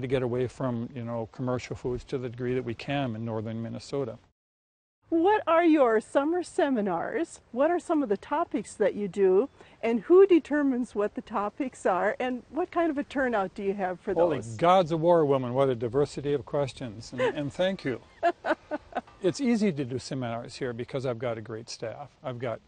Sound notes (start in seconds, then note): 18.0 laughs